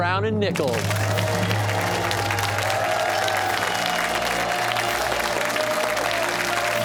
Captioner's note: cheers and applause